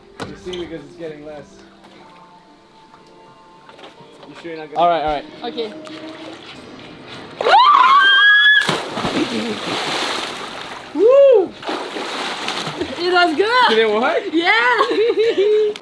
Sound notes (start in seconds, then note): 0.0 speaking faintly; 0.0 wood creaking; 6.2 water gurgling; 7.4 girl screaming; 8.7 water gurgling; 13.7 speaking faintly; 14.1 laughs